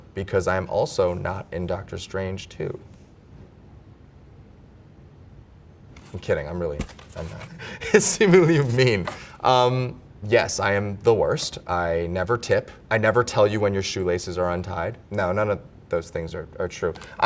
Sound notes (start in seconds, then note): 2.9 silence; 7.4 Simu laughs